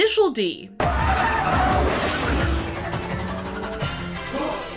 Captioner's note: engine revving